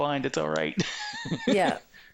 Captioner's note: laughing